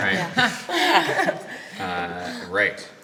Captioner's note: excited laughter